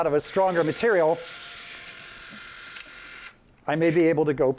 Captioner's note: tape measure extending